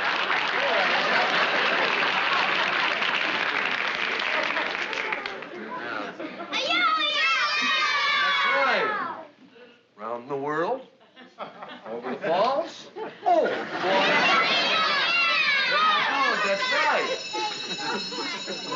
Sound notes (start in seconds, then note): 14.9 shouting; 17.2 school bell rings